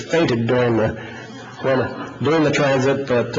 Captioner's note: audience laughs